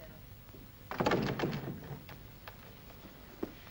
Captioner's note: doors close